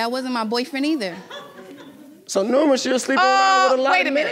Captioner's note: audience laughing